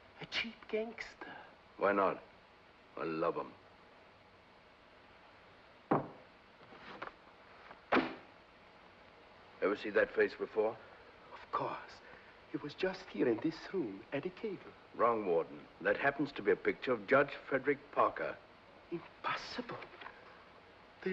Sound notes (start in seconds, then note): 5.9 glass sets down; 7.9 ledger thumps on desk